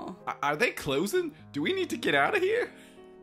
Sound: none

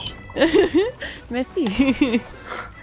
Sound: French

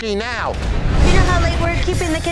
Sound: whoosh

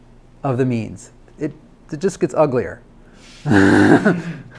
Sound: laughs

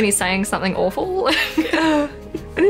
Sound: both laugh

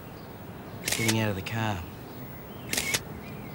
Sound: camera clicks

